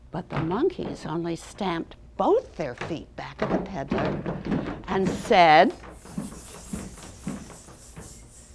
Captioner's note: hissing sounds